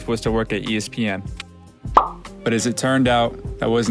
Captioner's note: soft Pop Sound